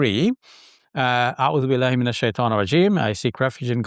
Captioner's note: speaking in foreign language